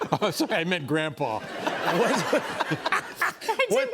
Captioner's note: laughter